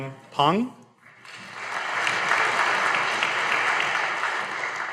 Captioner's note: audience applauding